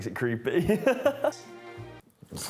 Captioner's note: laughs